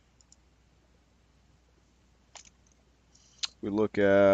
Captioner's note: mouse clicking